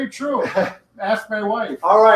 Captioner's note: laughs